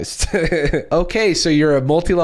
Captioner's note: chuckles